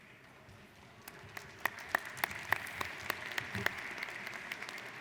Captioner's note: applauding